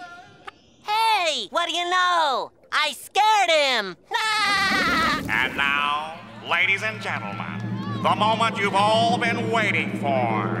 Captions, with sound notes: Hey, what do you know? I scared him! [laughing] And now, ladies and gentlemen, the moment you've all been waiting for,